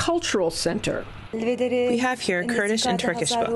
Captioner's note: through translator